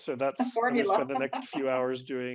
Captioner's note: laughs